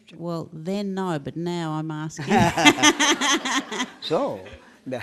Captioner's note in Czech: smích